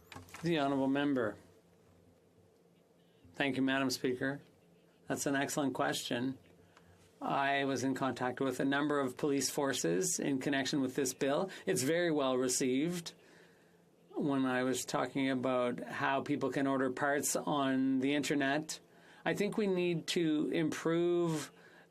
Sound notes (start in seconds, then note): 5.3 speaking FRENCH